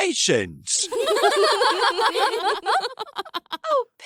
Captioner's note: laughter